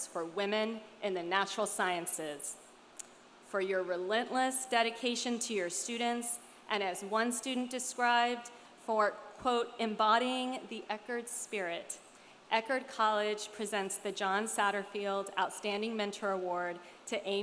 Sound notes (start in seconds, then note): none